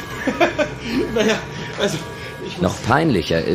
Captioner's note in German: lacht